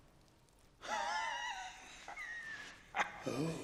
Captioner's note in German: Lacht